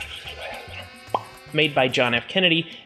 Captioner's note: pop!